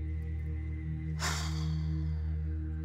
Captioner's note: sighs